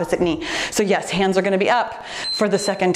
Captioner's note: timer beeps